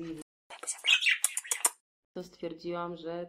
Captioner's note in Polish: cmoknięcie